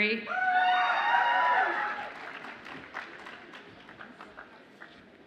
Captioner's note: audience applauds and cheers